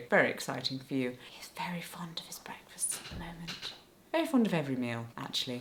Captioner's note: whispering